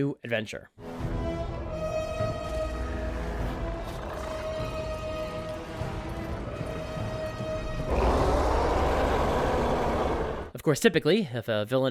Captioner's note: ominous music; Red Hulk roars